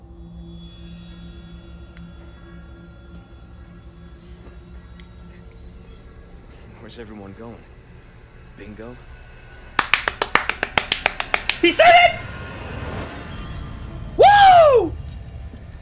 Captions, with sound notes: *Clapclapclapclapclapclapclapclapclapclapclapclapclap* He SAID IT! WOOOOOO!!!